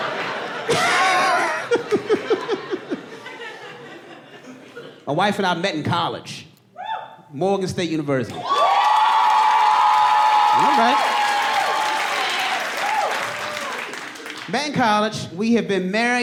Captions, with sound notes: -My wife and I met in college. -[AUDIENCE MEMBER WHOOPS] Morgan State University. [AUDIENCE WHOOPING AND CHEERING] Not bad. Back in college, we had been married for... almost ten,